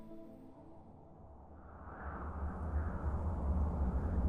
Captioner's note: wind howls